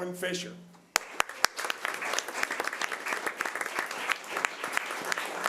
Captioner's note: audience applause